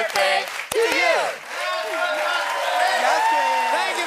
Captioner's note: cheering and applause